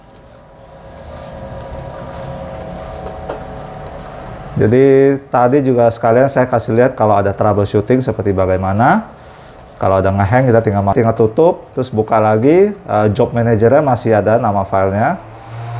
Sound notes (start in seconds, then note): 0.1 printer machine noise